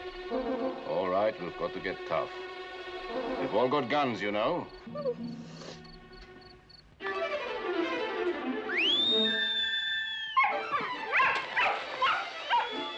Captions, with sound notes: All right, we've got to get tough. - We've all got guns, you know. - [whimpers] [whistling] [barking]